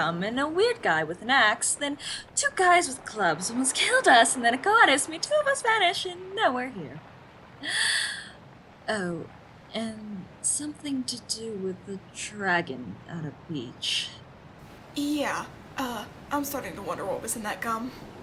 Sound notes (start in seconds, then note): 7.6 gasp